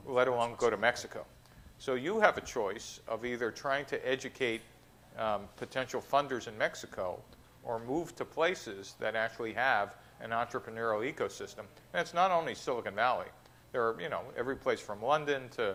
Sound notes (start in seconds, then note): none